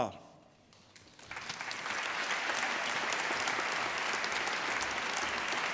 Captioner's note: applause